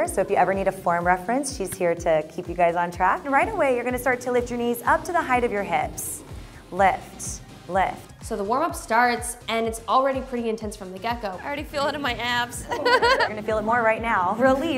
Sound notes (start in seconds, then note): 12.6 laughs